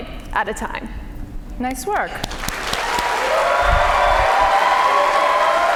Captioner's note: cheers and applause